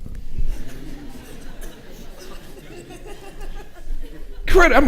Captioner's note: audience chuckling